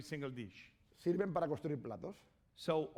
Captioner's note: speaking spanish